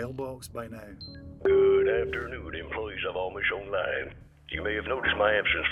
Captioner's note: Boss over intercom